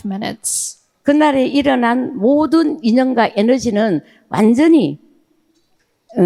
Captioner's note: speaking in foreign language